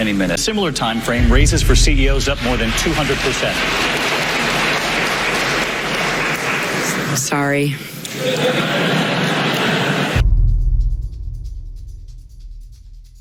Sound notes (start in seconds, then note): 3.7 crowd applauds as Clinton arrives back to the stage late; 8.0 laughter